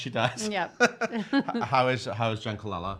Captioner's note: laughing